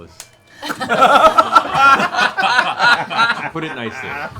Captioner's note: laughter